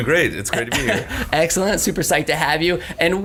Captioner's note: laughs